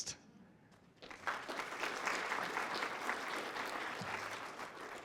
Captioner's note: applause